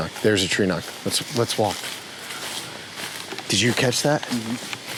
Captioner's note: footsteps rustling